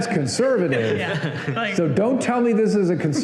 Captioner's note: laughter